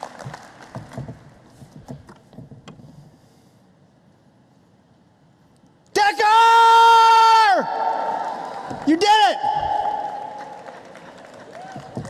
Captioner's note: applause